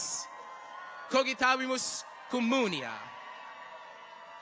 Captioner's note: people cheer